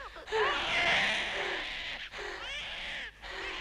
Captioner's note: Hundra breathing heavily; baby crying